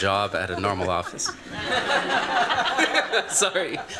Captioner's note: laughter